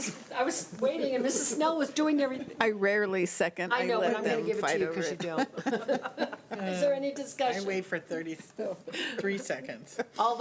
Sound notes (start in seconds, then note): 5.1 laughing